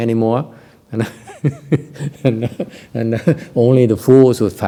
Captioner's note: laughter